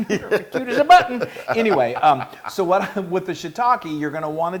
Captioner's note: laugh